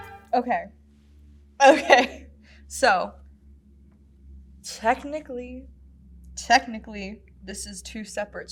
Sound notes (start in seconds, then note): 2.1 laughs